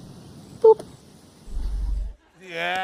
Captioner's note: laughs